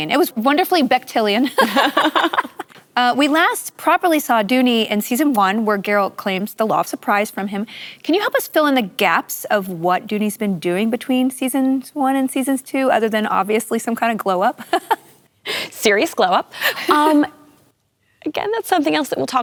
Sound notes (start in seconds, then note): 1.5 laughter; 14.6 laughing